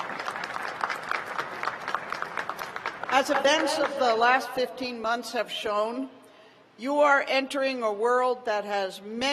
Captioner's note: applause